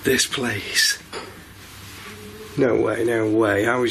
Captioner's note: clattering